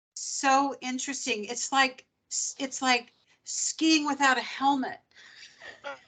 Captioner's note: laughing